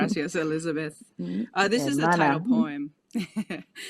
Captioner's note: laughs; speaking a foreign language; laughs